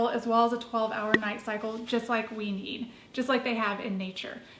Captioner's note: popping sounds as images come up